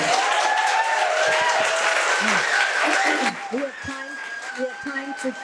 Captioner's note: audience cheering